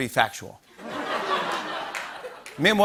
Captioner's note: laughter